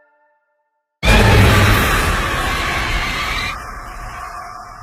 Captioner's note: screeching effect